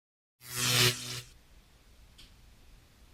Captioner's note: electrical zapping